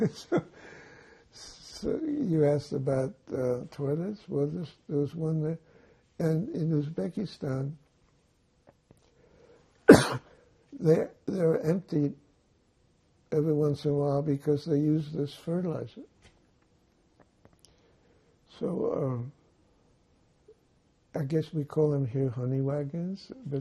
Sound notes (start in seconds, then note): 0.0 laughing; 9.8 coughing